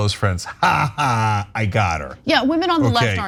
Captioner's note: laugh